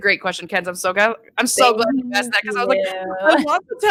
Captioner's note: speaking faintly